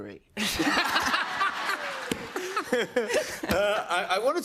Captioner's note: laughter